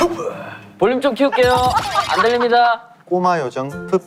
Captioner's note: laughing out loud